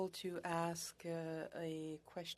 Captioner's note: speaking French